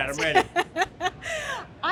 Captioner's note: laughter